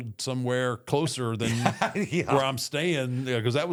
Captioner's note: chuckles